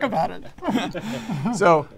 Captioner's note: all laughing